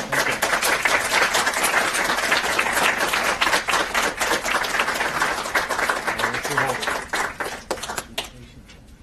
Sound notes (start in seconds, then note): 0.0 applause